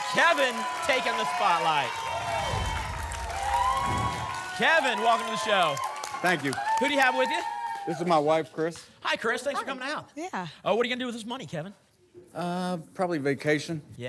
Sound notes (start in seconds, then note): 2.0 applause and cheering